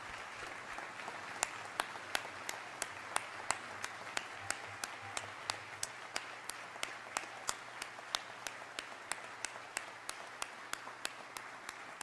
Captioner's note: applause